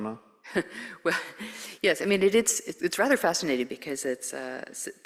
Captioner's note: chuckles